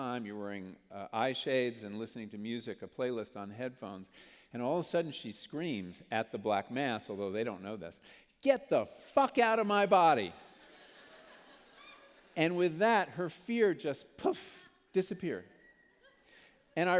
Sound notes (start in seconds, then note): 10.4 laughter